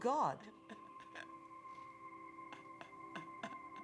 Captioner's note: laughing Continues